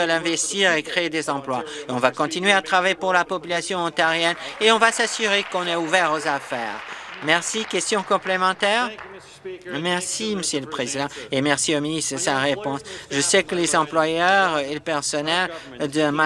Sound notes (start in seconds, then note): 8.7 some Applause